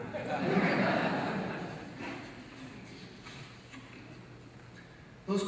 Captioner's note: audience laughs